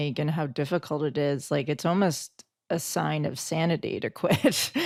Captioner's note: laughs